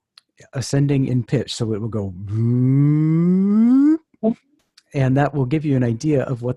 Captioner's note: crescendo tone